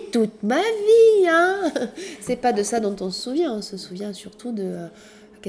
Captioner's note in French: rires